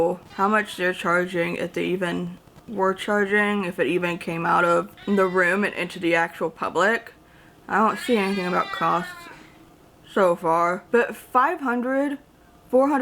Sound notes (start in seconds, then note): 7.9 cat meowing